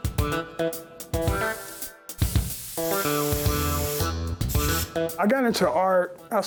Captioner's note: spray can hissing